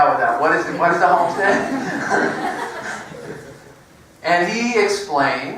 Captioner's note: laugh